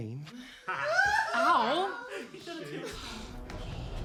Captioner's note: sobs